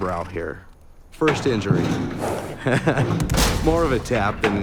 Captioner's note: laughs